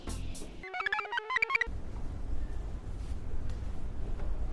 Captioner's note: computer chirps